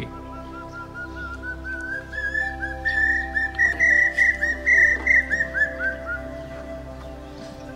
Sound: common Hawk Cuckoo Call

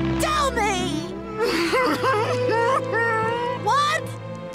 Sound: crying

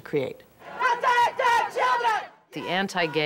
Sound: chanting

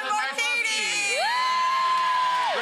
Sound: all cheering

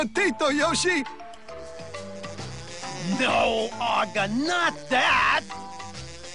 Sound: mosquito buzzing

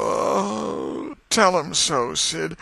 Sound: groan

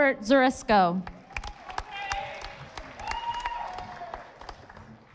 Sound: audience applauding

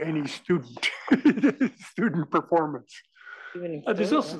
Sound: laugh

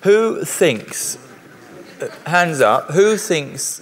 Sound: laughter

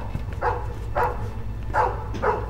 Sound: barking stops

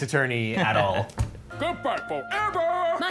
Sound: laughing

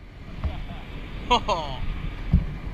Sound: laughing

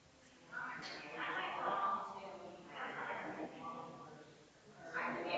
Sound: people chattering distantly continues

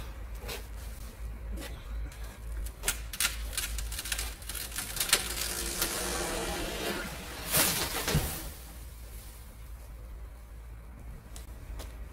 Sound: tree coming down

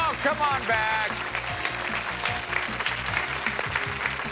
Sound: applause

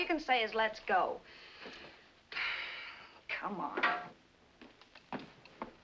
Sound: sighs

